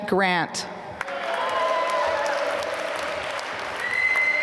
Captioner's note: applause